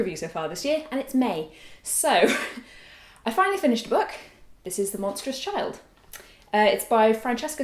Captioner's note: laugh